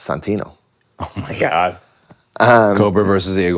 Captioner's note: laughs